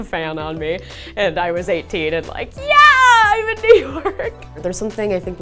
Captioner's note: laughs